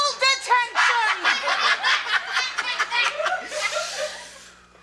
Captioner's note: George laughing